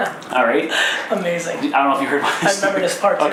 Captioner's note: laughs